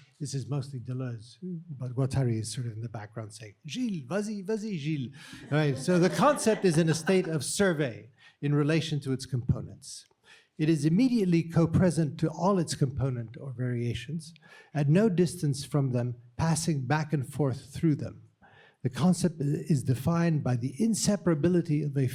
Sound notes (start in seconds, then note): 3.8 speaking french; 5.2 chuckling